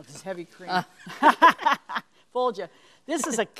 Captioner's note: both laugh